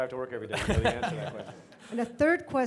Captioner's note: laughs